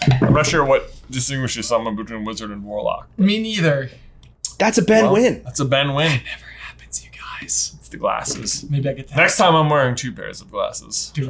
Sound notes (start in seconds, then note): 6.7 whispering